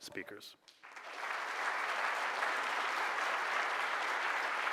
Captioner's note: clapping